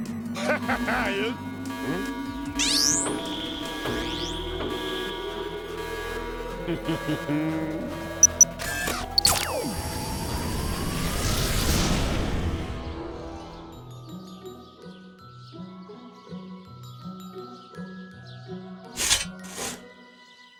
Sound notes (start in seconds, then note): 0.3 laughing; 2.6 alert sounding; 6.6 giggles; 9.3 whirring; 13.8 birds singing